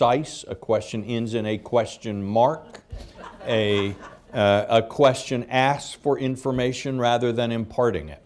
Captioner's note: laughter